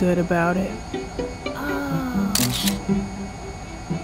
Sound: camera clicks

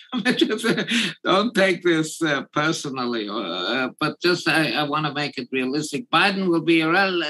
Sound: laugh

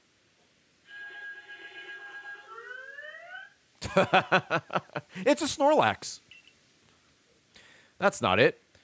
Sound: laughs

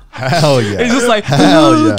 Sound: laughing

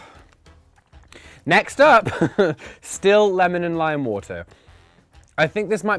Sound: laughs

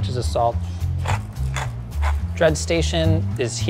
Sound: shaker grinding

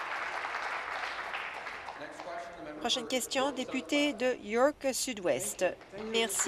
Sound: applause

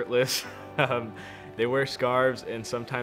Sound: chuckles

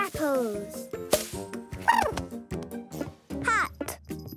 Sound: chirping

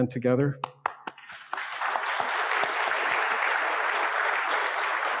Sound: audience clapping

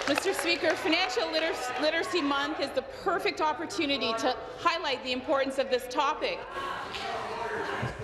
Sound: applause

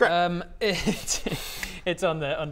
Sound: unhelpful giggles

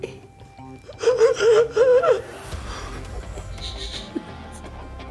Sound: gasping

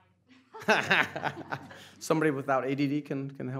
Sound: laughing

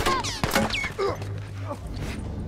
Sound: bullets ricocheting; groans

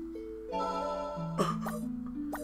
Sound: cough

